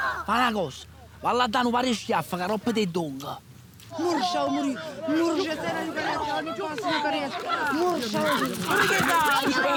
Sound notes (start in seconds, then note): 6.0 voices and indistinct screams; 7.9 hissing sounds